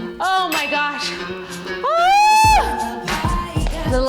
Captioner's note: yells